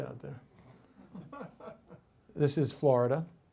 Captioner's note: man laughs